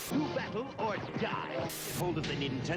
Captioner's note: TV static